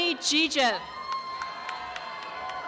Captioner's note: applause and cheering